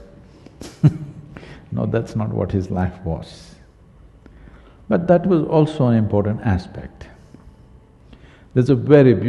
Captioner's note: laughs